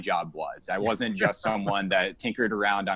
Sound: laughing

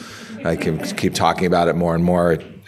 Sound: audience laughing

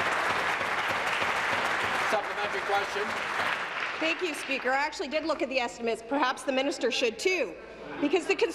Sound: applause

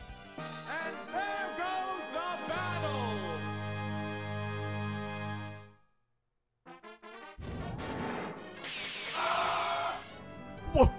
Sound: screaming

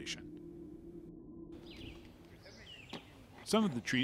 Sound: birds chirping

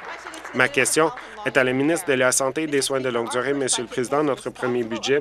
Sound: cheers; applause

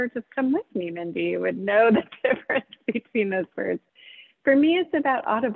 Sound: laughs

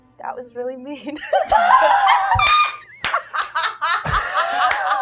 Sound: participants laughing

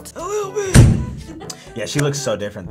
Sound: raspy

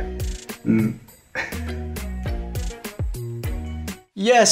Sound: laughs at this absurdity

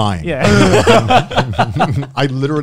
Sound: everyone laughs

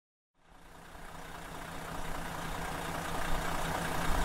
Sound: engine humming

